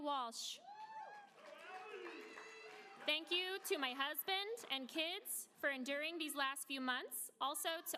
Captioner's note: applause